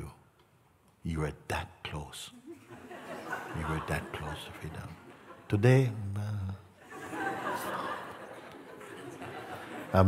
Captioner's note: Lachen